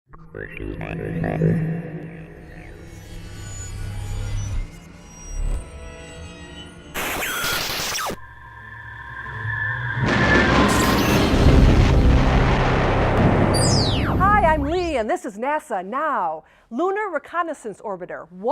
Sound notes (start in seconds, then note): 0.5 sound Effects